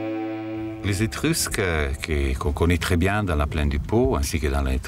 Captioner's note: French spoken audio